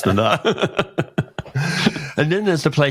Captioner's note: laughs